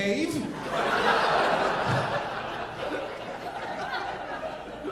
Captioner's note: audience laughing